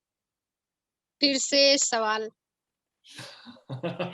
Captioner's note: speaks foreign language; laughs